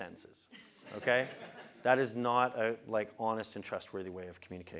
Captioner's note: laugh